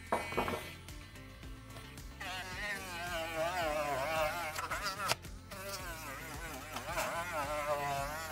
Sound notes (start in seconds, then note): 1.5 sander whirs